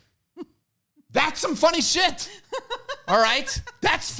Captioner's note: laughs